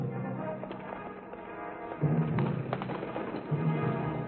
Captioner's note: horses trotting